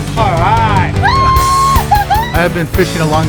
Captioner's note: cheering